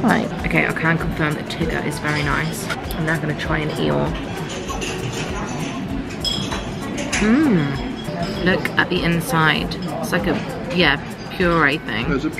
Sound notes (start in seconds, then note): none